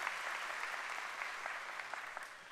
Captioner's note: applause